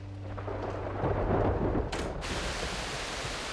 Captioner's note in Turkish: Gök gürlüyor